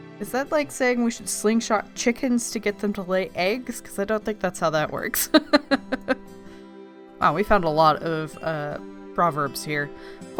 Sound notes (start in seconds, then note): 5.3 laughs